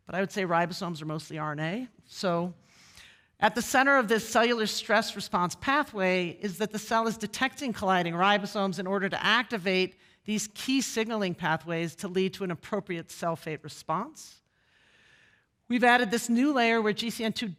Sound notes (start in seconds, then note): none